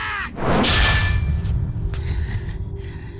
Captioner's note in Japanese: 叫び声